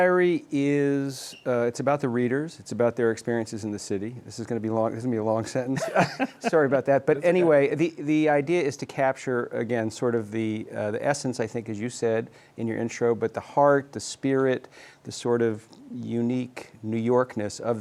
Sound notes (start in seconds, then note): 5.7 both laugh